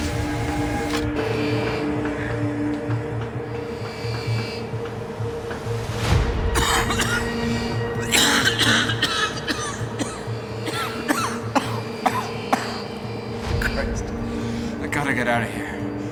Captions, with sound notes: (suspenseful orchestral music) (Jed coughing) - Christ, I gotta get outta here.